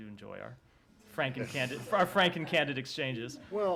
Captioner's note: laughter